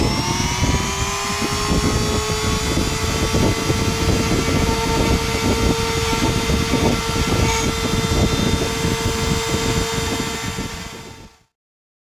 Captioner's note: grinding sound